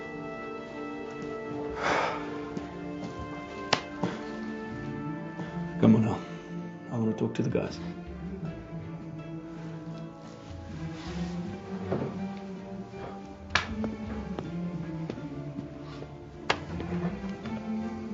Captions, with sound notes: (sighs) (slaps) - Come on now. I'll go talk to the guys. (sighs)